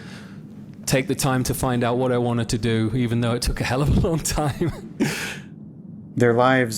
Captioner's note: laughs